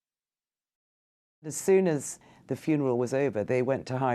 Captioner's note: voiceover